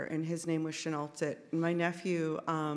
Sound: speaks in Sk1wx1wu7mesh

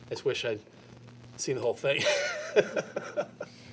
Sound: laughs

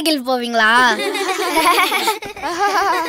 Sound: children laughing

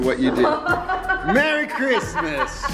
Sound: laughing

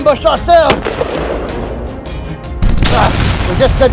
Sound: gunshot Sounds

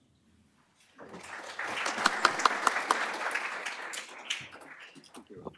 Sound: applause

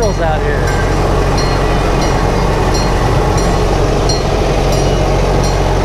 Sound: train bell clanging

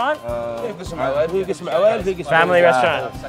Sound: all speak foreign language

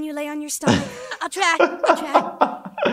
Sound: laughs

